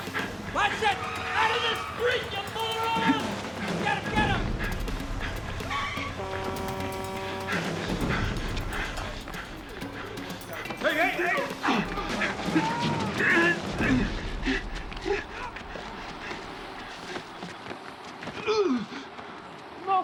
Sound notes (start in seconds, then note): 5.3 tires screeching; 5.5 horn honks; 18.2 grunts